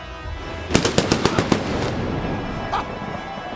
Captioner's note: thunder booms